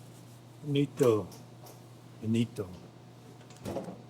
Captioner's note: speaking in Italian